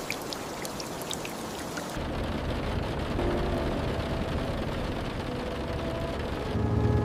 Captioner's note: tires rolling over wet gravel